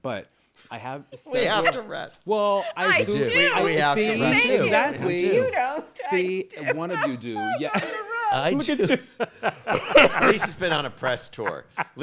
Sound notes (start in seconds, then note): 7.6 all laughing